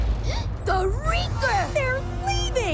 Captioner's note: gasps